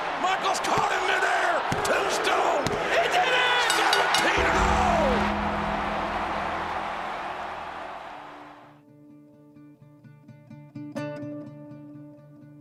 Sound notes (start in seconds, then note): 3.7 bell rings; 4.0 audience cheering; 9.2 light music